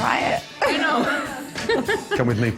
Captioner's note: giggling quickly